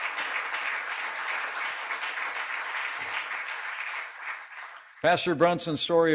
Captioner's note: applause